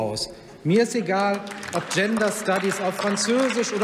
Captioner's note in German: Heiterkeit und Beifall beim BÜNDNIS 90/ DIE GRÜNEN, bei der SPD und der LINKEN